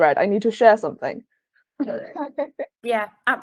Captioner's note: laughing